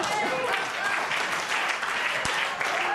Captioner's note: laughter and applause